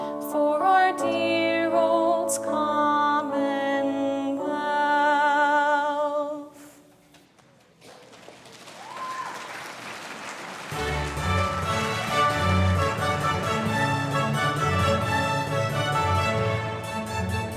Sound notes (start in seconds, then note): 7.1 audience applauding; 10.6 orchestral music playing